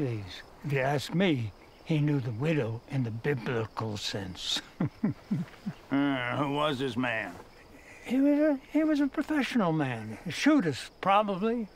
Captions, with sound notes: If you ask me, he knew the widow in the biblical sense. (chuckles) - Who was this man? - He was a professional man, a shootist, probably military.